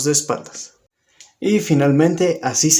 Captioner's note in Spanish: Silencio